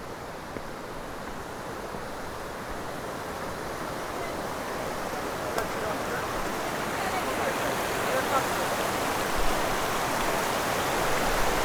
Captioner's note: waterfall noise